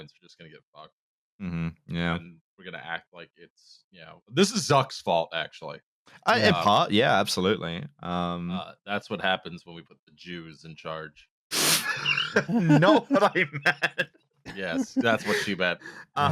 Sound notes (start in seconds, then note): 11.7 laughs